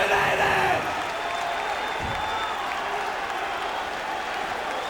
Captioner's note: crowd cheering